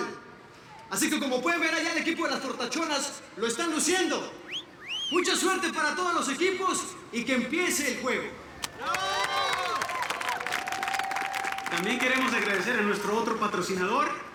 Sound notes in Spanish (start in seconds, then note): 4.4 Silbidos; 8.4 Arengas del público